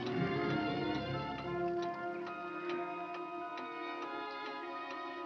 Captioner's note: ticking